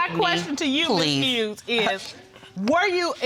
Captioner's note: scoffs